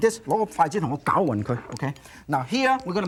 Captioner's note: foreign language